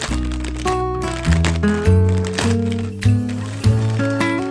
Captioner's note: riiiiip